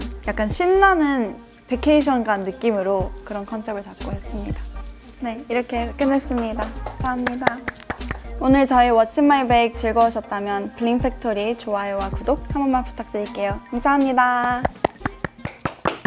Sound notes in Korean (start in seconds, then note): 6.3 짝짝짝